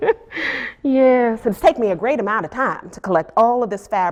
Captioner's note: laughs